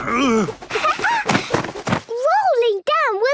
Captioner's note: laughing